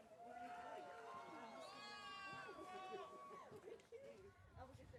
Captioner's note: audience cheering